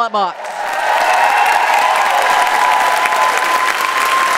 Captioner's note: audience applauds